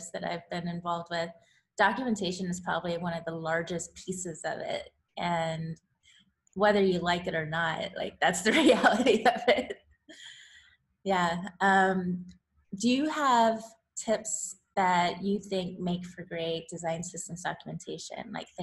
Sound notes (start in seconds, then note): 10.4 laughs